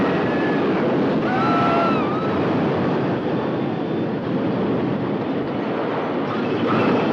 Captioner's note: screaming